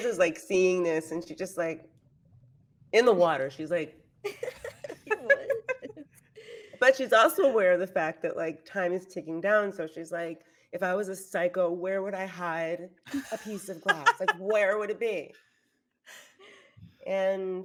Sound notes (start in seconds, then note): 4.3 everyone laughs; 13.0 laughs